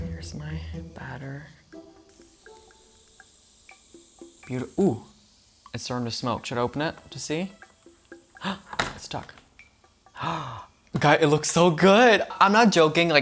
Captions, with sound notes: Here's my batter. (waffle maker sizzles) Beautiful, oh! It's starting to smoke. Should I open it to see? Ah, it's stuck! Ah! Guys, it looks so good! I'm not joking.